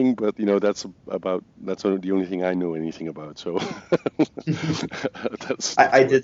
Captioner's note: laughs